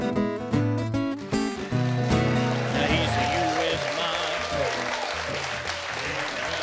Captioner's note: audience applauding and cheering